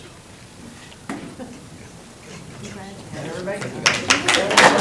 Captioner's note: crowd talking indistinctly